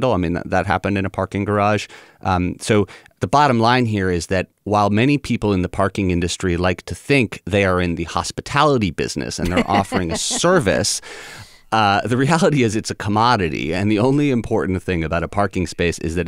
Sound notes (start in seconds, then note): 9.4 laughter